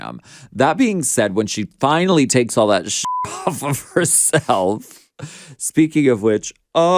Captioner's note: beep